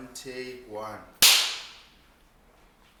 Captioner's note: claps